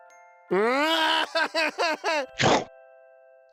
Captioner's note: cries